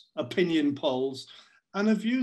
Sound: none

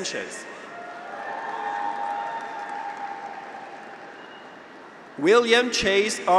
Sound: graduates cheer; audience applauds

